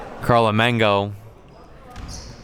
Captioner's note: laughs